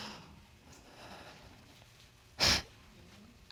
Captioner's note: breathing deeply; sniffles